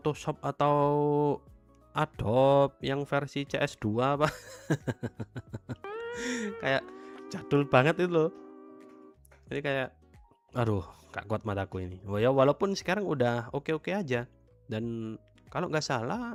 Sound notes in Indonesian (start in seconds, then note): 5.4 tertawa